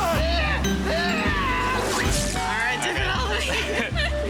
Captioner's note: screaming